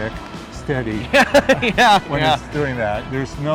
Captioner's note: laughing